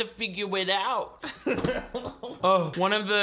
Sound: laughs

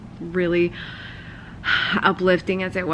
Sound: sighs

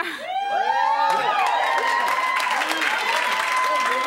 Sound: cheering

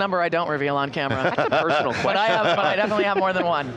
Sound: everyone laughing

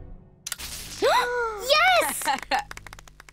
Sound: gasps

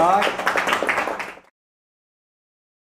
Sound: applause

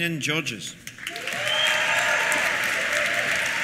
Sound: applause; cheers

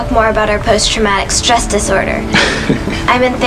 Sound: Shawn chuckles

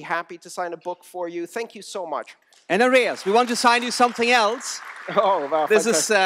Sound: applause

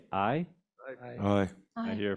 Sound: board members call aye

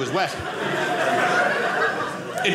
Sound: audience laughing

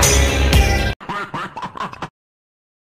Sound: Benrey laughing

